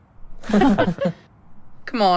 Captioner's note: all laugh